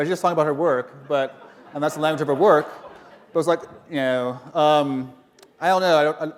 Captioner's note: laughter